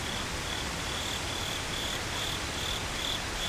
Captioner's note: crickets & Wind Noises